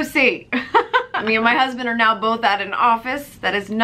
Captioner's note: laughs